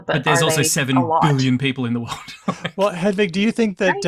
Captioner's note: laughs